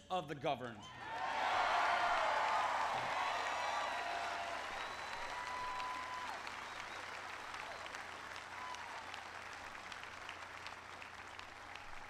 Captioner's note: applause